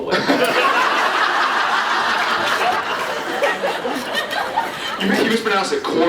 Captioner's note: laughs